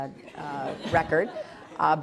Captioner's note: laughter